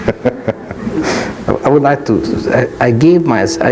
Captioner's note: laughs gently